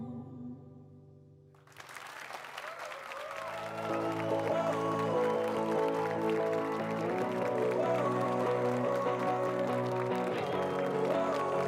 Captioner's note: applause and cheers